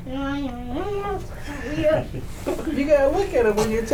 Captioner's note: being shy and talking quietly